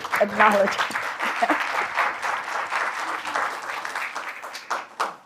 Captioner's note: applause